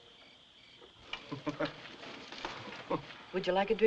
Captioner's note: Harry Chuckling